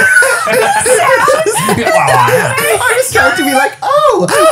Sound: all laughing

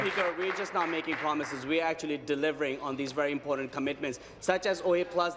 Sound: applause

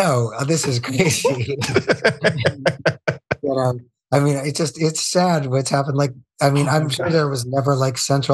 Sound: laugh

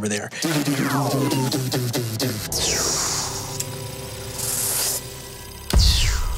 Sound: mimics electronics buzzing and whirring

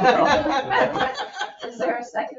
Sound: people laugh

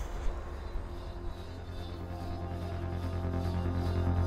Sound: dramatic sounds

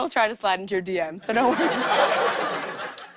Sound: laughter

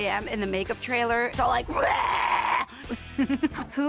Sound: laughs

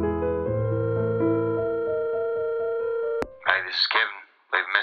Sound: phone ringing

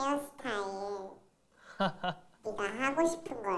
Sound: laughing

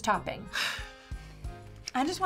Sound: sighs

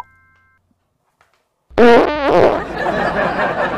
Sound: fart sounds

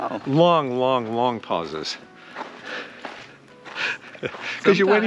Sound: chuckles

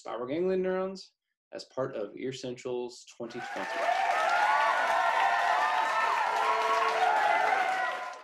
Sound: applause and Cheers

